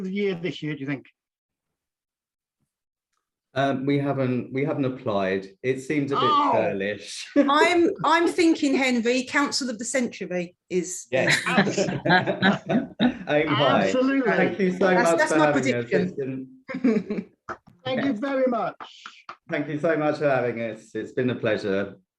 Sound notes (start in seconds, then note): 6.1 exclaims; 13.8 laughter